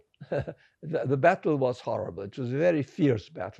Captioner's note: laughing